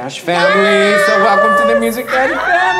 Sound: squealing; clapping

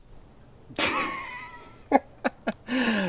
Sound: laughing

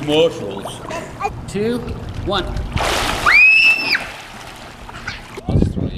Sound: screaming

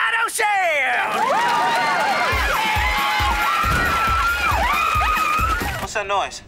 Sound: cheering, yelling

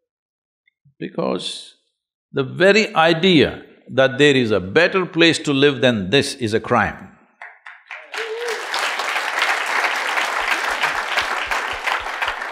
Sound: applause

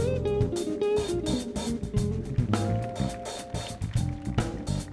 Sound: audience applauding

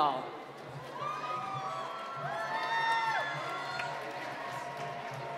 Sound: cheering and applause

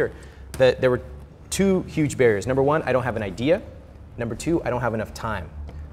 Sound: none

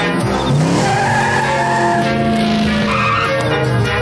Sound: tires screeching

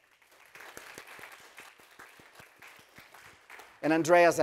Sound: audience applauding

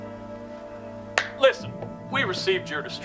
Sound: claps

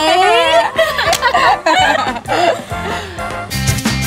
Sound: laughter

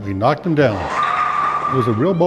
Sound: bowling ball hits pins

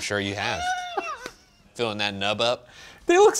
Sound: laughs

